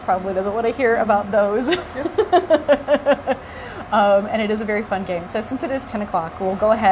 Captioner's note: laughter